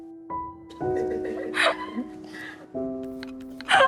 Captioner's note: laughing